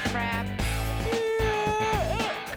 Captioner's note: yawning